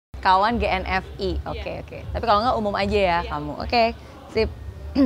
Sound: background Chatter

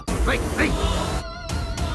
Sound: none

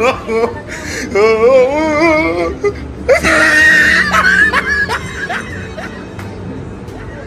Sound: laughing

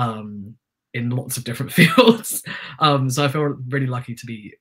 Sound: chuckles

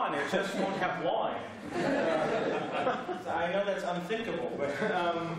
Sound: laughter

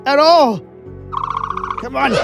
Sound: dilophosaurus chirping

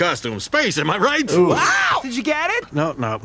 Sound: screams

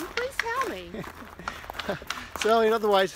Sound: chuckles

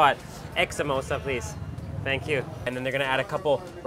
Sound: speaks in foreign language

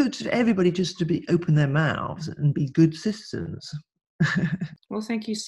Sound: laughs

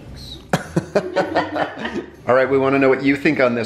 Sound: laughter

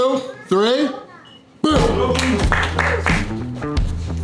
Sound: clapping

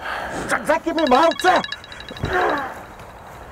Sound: phone ringing

